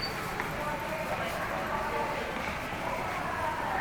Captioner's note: street audio